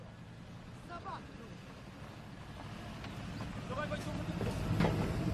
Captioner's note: speaking foreign language